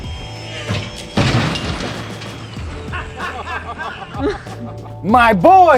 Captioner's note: metallic clanking; laughter